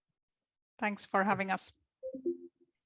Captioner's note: software chimes